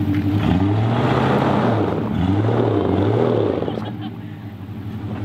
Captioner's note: engine revs